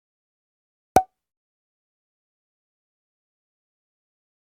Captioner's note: pop